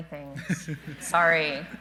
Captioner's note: everyone laughing